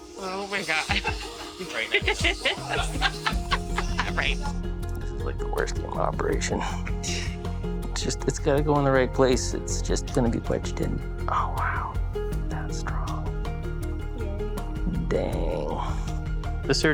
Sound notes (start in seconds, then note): 0.8 assistants laughing